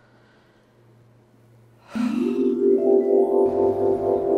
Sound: sighs

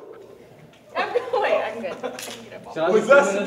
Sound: laughing

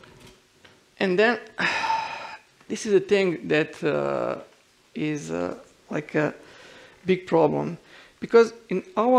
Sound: sighs

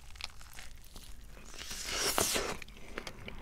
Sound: slurp

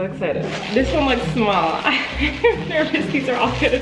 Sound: laughing

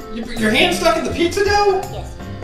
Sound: voiceover

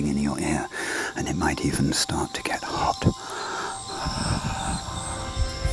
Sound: breathes heavily

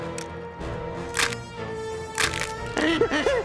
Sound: cracking; groaning

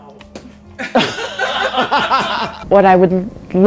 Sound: everyone laughs

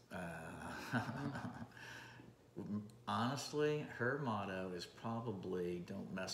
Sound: laughing

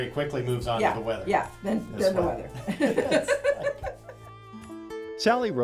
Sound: laughs

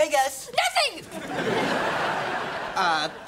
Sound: laughing

